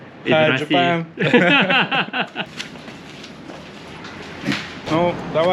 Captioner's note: laughs